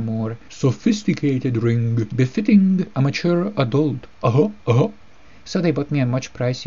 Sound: my "d'-uh" voice

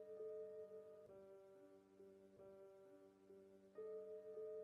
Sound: whispering card reading

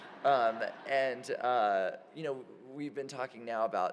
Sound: laughter

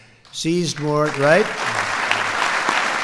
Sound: applause

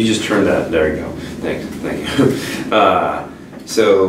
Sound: laughs

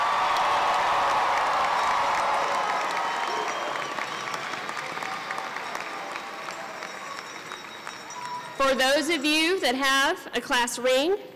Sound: cheering

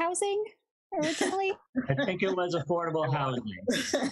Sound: laughs

